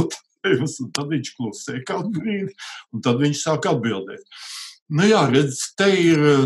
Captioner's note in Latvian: smejas